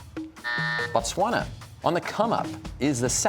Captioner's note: buzzer sounds